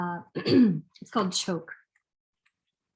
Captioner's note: clears throat